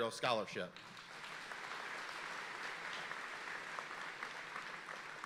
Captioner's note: audience applauding